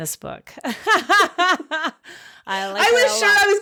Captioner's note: women laughing